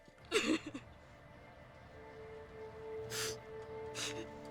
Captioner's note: sobbing